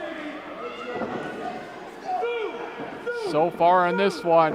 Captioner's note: crowd clamoring